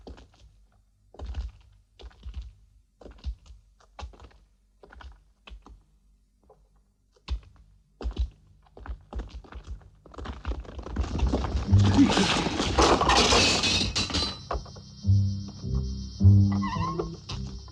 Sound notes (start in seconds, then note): 11.9 gasping; 13.1 clanking